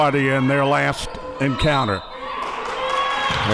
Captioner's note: whistle blows; audience clapping